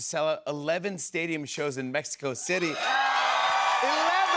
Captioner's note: cheers and applause